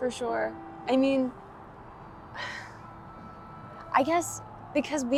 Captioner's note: sighs